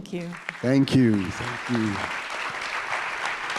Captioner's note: audience applauding